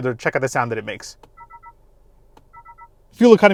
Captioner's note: display gauge beeps